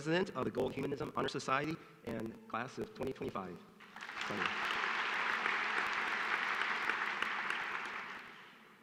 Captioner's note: applause